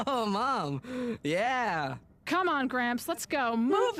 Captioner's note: chuckling